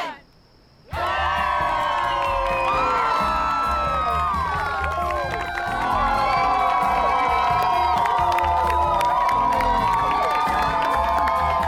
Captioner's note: crowd cheers, claps